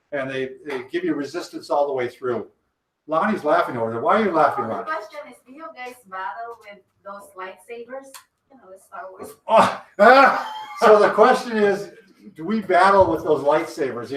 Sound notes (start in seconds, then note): 9.2 laughs